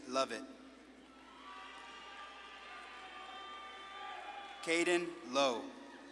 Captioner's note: audience claps and cheers